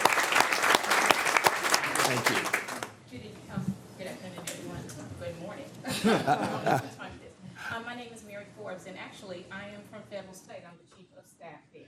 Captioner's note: applause